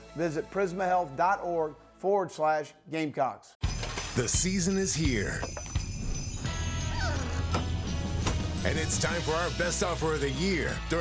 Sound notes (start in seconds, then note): 4.2 winter holiday music; 6.6 dog whimpers